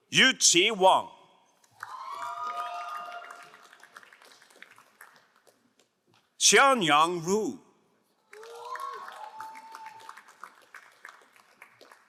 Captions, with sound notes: Yujie Wang. (crowd cheering and applauding) Chanyang Ru. (crowd applauding)